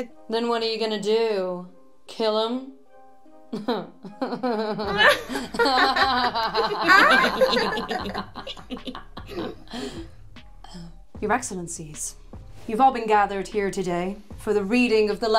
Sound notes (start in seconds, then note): 3.6 all evil laugh